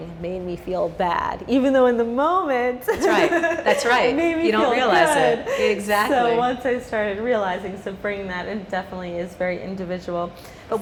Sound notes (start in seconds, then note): 3.2 laughing